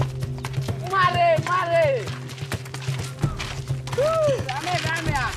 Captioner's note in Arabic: صرخات الطلاب